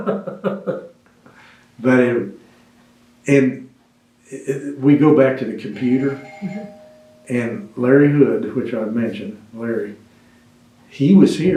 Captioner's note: laughs